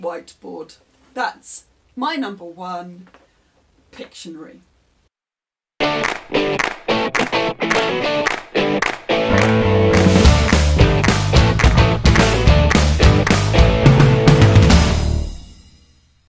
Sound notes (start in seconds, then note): 5.9 claps